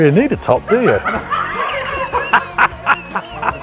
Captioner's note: laughter